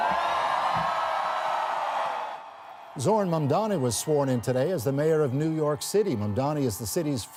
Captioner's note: cheering